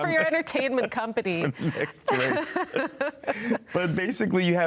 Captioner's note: both laughing